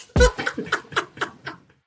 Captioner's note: laughter